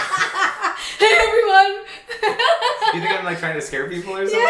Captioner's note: laughing